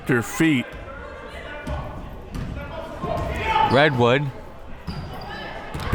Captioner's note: crowd members shouting